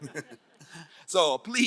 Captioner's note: crowd laughing